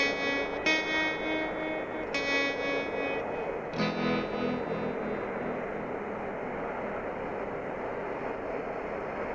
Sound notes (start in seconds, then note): 2.4 cars faintly whizzing